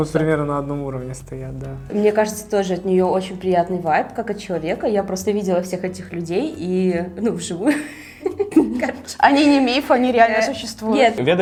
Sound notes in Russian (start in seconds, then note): 7.6 смех